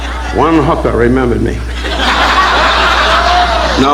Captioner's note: audience laughing